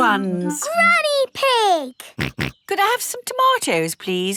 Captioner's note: snorts